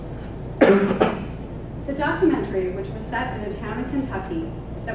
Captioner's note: cough